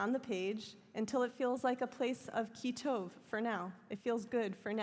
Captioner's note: hebrew